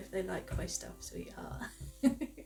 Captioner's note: giggle